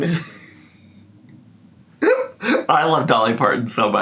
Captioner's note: laughs